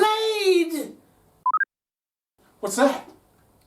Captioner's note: beep on computer